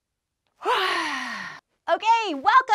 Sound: yawns

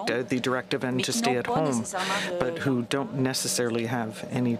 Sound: speaking french

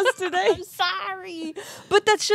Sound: chuckling

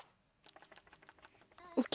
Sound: flap

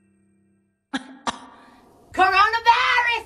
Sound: coughs

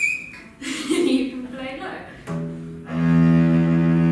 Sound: laugh

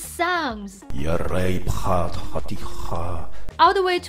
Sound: speaks foreign language

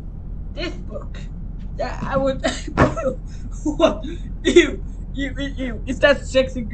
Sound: laughing

